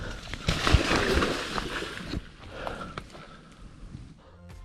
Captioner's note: water splashing